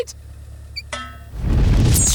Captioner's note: dink